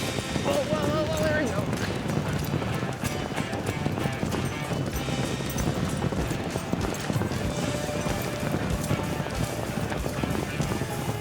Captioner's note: hoofbeats